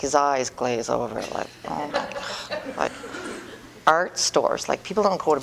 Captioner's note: groaning